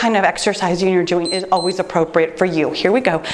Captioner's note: timer beeps